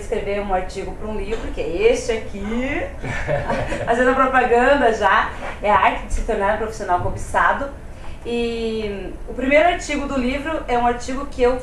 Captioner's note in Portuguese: risos